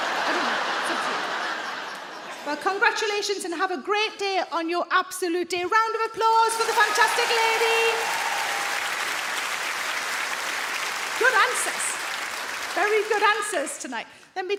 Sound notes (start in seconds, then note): 0.0 audience laugh; 6.5 audience clap